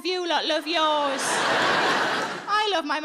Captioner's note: audience laughing